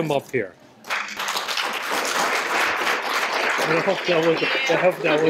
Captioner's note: applause